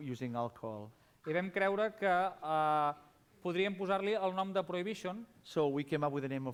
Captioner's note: non-english speech